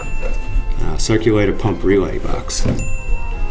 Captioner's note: ding